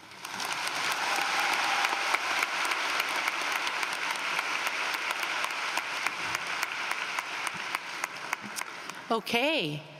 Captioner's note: applause